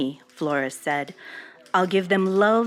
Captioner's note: archival news audio